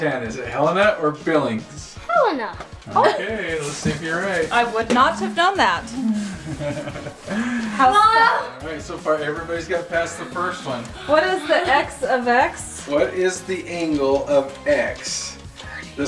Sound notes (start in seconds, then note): 5.8 groans; 5.8 laughs